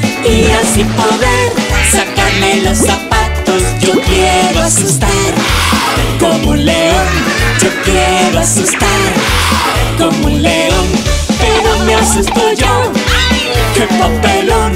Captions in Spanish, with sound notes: y así poder sacarme los zapatos Yo quiero asustar (Sonido de león) como un león (Risas) Yo quiero asustar (Sonido de león) Pero me asusto yo ¡Ay! que papelón